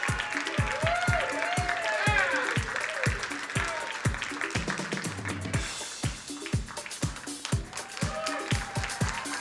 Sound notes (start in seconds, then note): 0.0 crowd cheering and applauding; 5.6 upbeat music